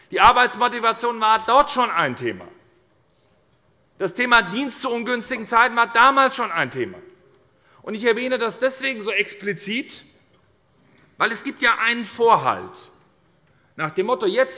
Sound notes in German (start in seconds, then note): none